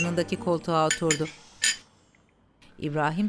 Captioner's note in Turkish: Kaşık sesi